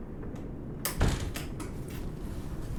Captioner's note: door closes